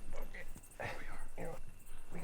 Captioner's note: Dana grunting